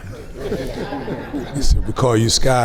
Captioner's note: groups laughs